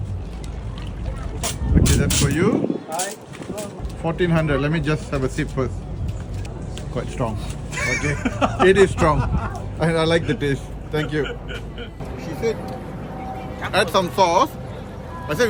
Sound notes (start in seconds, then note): 7.7 laughing